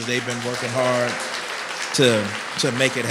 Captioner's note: applause